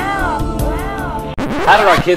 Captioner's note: record scratch